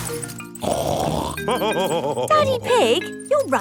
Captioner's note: snorts and laughs